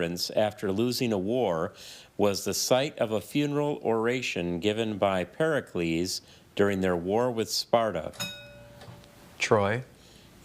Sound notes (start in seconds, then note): 8.1 bell dings